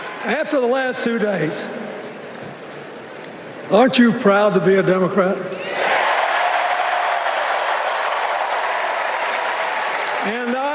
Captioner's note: cheers and applause